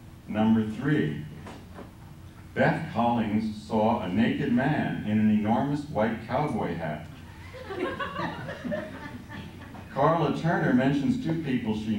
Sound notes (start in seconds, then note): 7.3 laughter